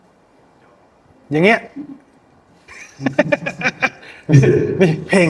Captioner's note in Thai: เสียงหัวเราะ